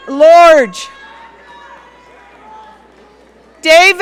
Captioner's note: audience cheering